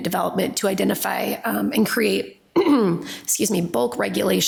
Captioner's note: clears throat